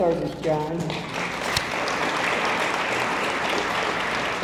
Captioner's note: audience applauds